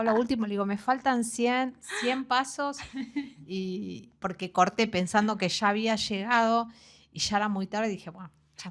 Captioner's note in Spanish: risas